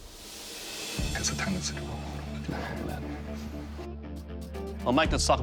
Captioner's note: whispering